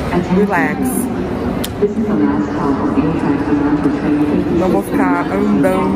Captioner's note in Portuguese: voz no auto falante